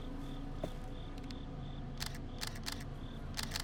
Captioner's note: camera shutter clicking